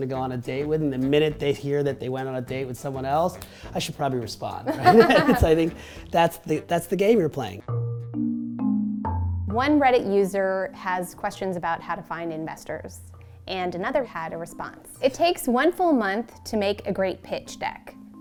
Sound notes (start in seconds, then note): 4.7 laughing; 7.3 upbeat music